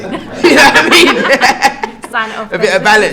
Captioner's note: laugh